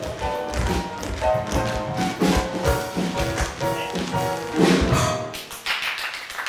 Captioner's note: shoes tapping; exciting theatrical music; hands clapping